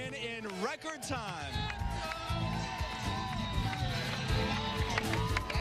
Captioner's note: applause and cheering